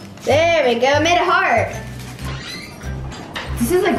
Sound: door squeaks

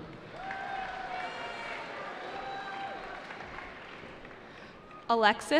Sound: cheering

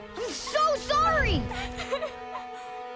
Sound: crying

